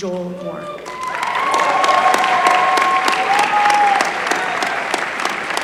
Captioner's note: applause